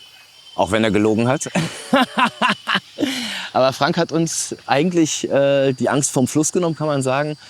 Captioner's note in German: gelächter